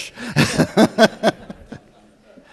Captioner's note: audience laughter